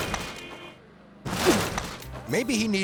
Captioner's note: thuds